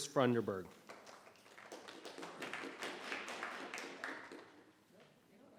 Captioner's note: members clapping